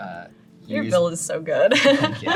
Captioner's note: laughs